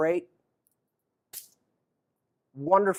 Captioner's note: snapping sound